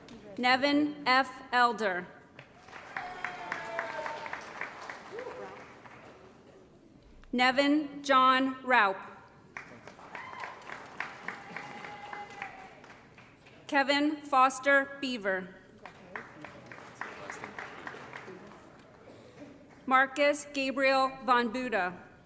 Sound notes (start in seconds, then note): 2.5 applause & Cheering; 9.5 applause & Cheering; 15.8 applause